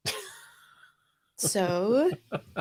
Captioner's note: laughs